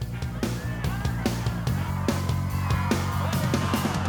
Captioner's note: cheering